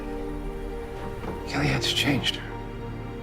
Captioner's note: voiceover